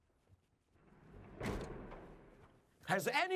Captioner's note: door slams shut